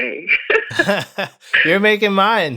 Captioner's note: laughter